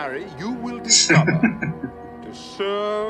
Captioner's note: chuckling